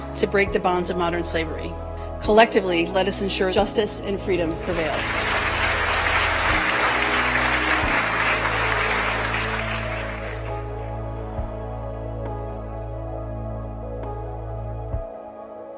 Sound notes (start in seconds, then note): 6.2 applause